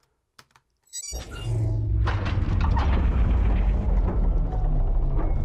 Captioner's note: electronic sounds play